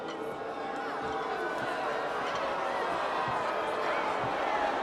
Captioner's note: crowd jeering